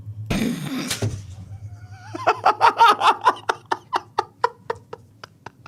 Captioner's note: laughing